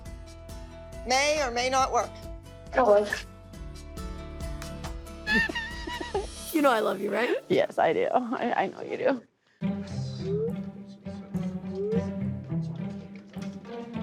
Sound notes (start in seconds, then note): 5.2 both laughing; 11.2 light music playing